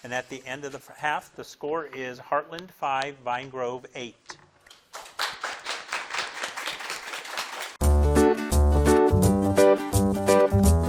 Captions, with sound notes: And at the end of the half, the score is Heartland, five, Vine Grove, eight. (crowd claps) (upbeat music)